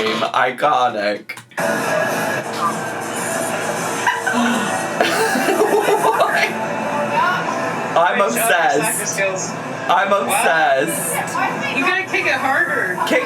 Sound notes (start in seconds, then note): 4.0 laughs